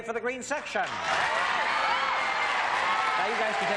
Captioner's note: applause